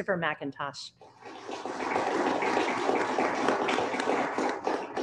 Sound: applauding

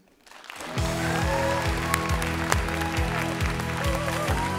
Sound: applause

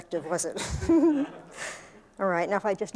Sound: laughter

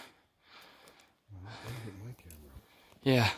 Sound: mumbles

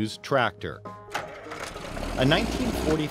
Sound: tractor starting up

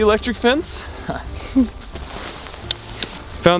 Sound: chuckles

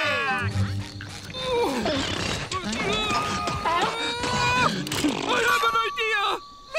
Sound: groaning

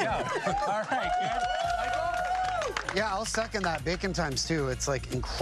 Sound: applause

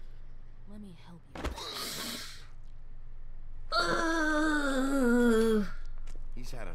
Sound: winces

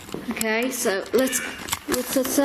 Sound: Ovilus buzzes

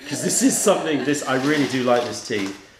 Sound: laughter

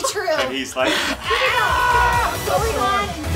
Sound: shouting

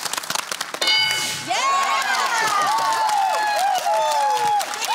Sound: cheering

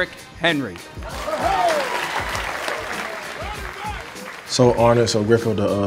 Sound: audience applauding

